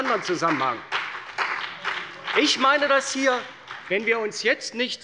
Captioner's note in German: Beifall bei der CDU und dem BÜNDNIS 90/DIE GRÜNEN